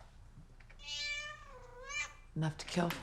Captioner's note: cat meowing